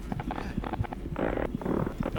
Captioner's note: squeaking